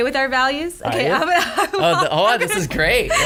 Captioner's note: laughs